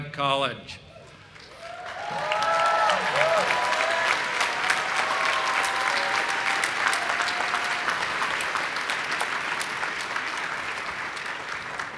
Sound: applause

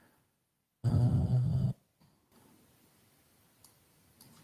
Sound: hums

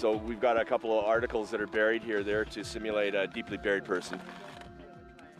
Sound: voiceover

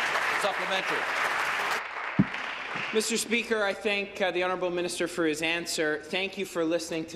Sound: applause

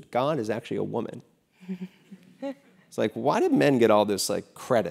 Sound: laugh

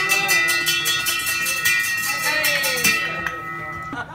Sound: bell rings

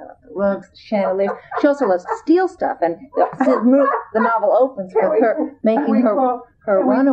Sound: laughter

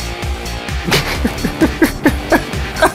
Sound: laughter

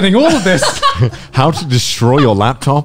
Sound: laughing loudly

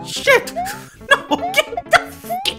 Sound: laughing

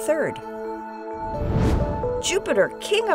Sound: whoosh

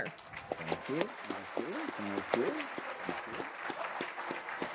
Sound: all applauding

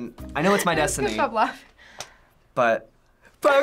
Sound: gasping

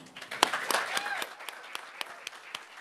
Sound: applause

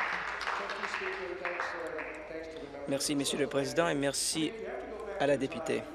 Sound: applause

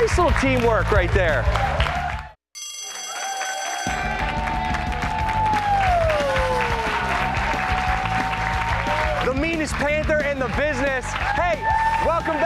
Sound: bell rings

